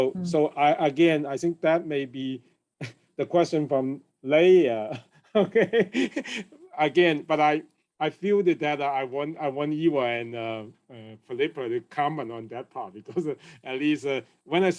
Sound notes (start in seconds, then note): 5.0 chuckles